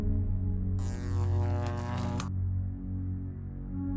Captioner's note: electricity crackling